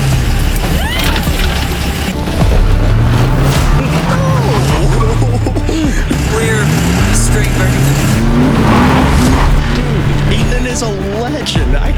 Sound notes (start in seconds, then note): 0.8 exclaims; 2.4 intense music; 8.5 engine revving